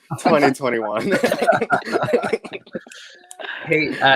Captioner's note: all laugh